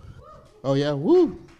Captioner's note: crowd member goes woo